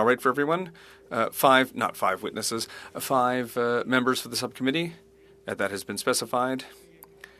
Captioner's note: speaking French